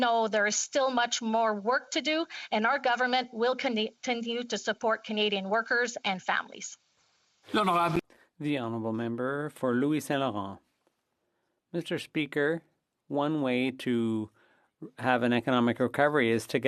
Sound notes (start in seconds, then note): 12.6 speaking French